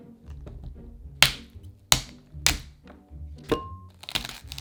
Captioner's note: cracking